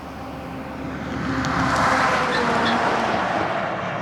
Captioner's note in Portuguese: Som de caminhão passando